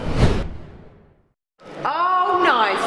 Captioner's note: air whooshing